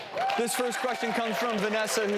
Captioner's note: audience cheers